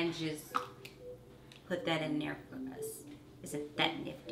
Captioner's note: lid popping